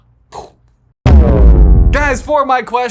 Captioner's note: image thudding